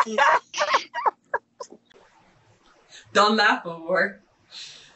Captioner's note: laughing